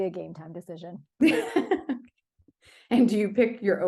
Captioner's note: laughs